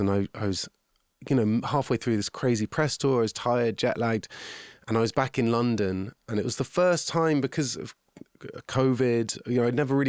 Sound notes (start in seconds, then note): none